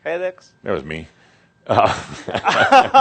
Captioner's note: they laugh